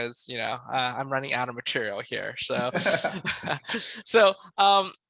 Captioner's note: laughs